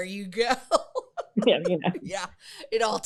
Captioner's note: laughs